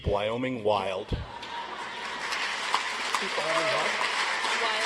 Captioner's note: audience applauds